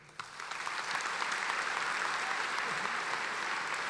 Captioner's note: applauding